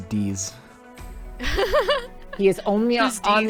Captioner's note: laughs